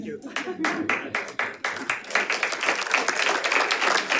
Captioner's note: audience applauding